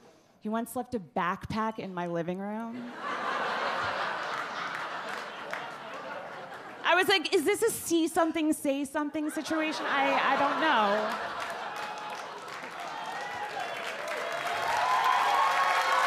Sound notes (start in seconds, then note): 2.8 audience laugh; 9.8 audience cheer and applaud